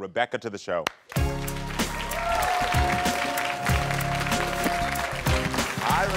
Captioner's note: audience applauding; upbeat music